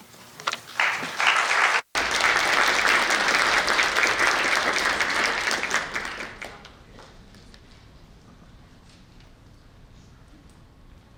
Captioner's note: applause